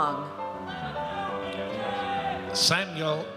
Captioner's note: audience cheers